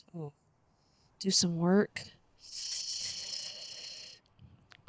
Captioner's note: sucks in breath